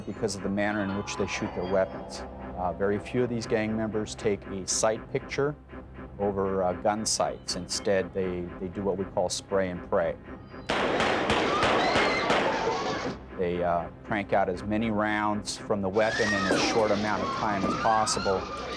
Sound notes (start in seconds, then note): 10.6 gunfire popping; 11.3 people screaming